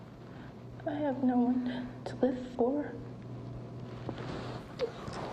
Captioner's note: sobs